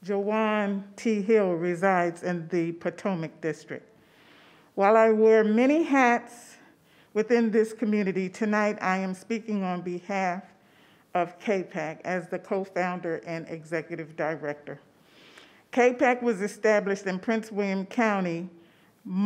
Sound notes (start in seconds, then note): none